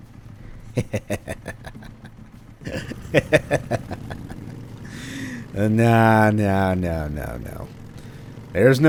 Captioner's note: devious Laughter